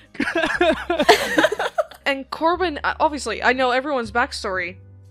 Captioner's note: laughter